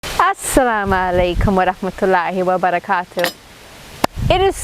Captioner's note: speaking in foreign language